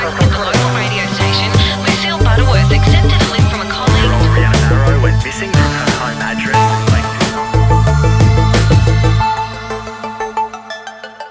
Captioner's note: radio noise and chatter